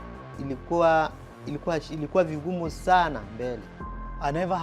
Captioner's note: speaks in Swahili